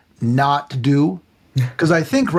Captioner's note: laughing